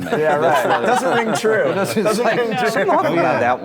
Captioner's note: laughter